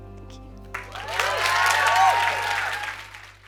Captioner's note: cheers and applause